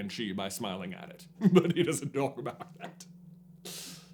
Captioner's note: smarmy chuckle